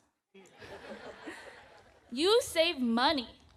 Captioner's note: audience laughs